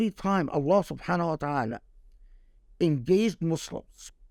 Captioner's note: speaking Arabic